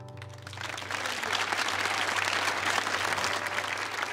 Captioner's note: audience applauds